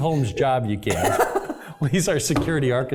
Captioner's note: laugh